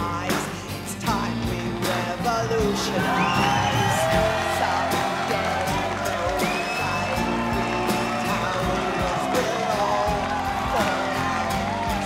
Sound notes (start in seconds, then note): 7.3 crowd cheering